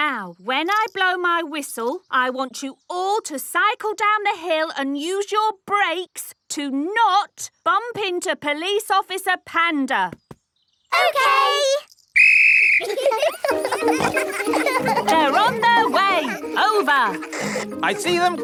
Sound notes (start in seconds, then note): 12.1 blows whistle; 12.8 giggling